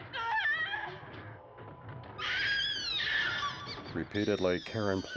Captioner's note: screaming